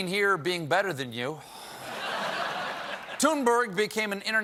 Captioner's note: laughter